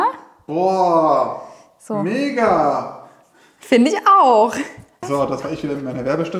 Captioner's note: exaggerated